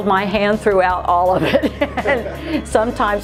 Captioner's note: laughs